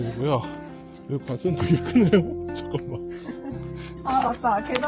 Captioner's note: exhausted